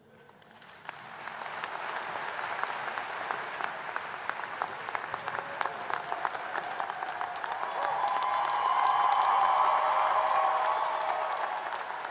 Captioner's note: applause